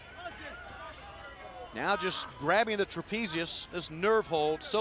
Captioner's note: crowd chatter